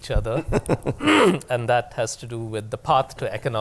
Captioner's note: laughter